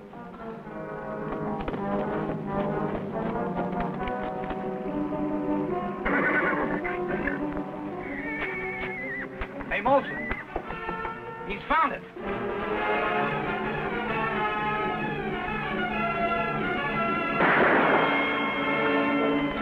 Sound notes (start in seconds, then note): 0.1 dramatic music; 6.0 Champ whinnies; 12.1 dramatic music; 17.4 guns fire